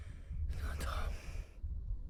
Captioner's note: whispers